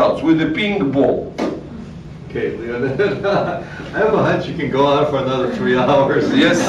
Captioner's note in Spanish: risas